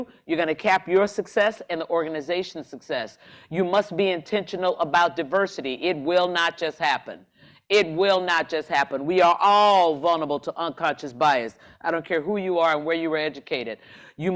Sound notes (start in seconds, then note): none